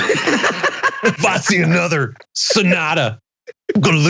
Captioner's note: laugh